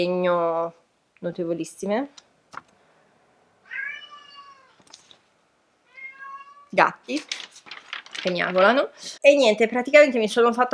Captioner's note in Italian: Miagolano gatti